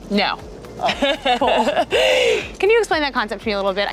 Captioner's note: laughs